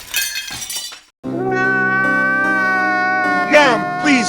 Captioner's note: exaggerated Crying